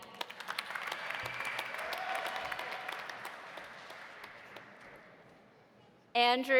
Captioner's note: audience applauding; audience cheering